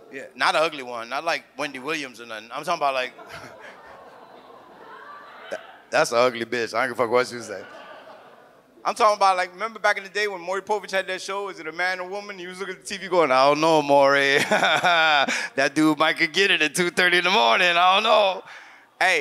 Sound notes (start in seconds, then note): 3.0 audience laughs; 3.1 chuckles; 7.3 audience laughs; 14.3 laughs